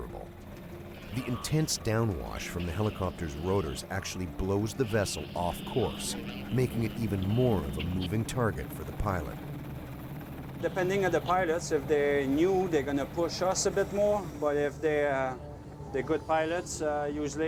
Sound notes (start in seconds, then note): 7.2 voiceover